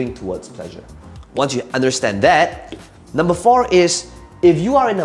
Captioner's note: tapping marker